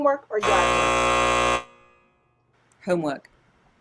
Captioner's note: buzzer buzzes